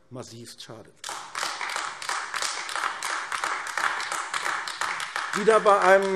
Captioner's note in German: Beifall AfD